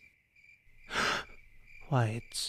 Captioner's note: gasp